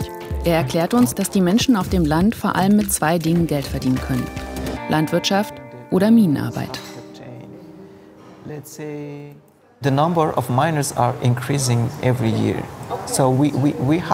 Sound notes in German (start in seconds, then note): 10.0 englisch